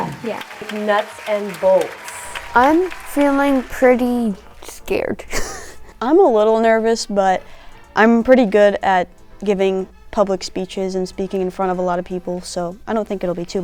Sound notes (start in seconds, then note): 0.0 crowd clapping; 4.5 laughs